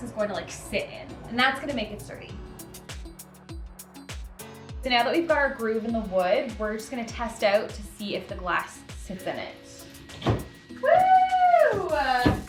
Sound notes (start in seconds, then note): 10.2 glass panel thumps